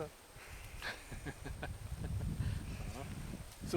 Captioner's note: chuckling